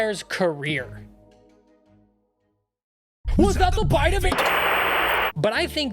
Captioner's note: TV static